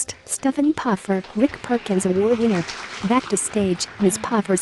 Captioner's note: applause